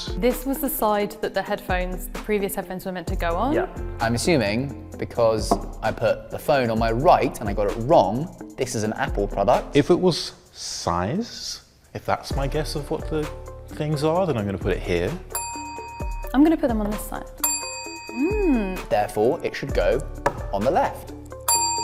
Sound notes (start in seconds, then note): 15.3 bell dings; 17.4 bell dings